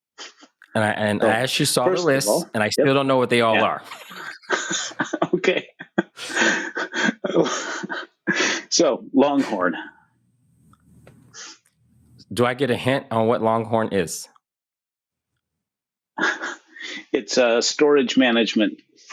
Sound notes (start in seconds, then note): 3.4 laughs; 5.9 laugh continues; 16.2 chuckles